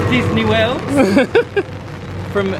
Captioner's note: laughs